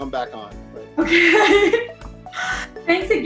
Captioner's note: laughs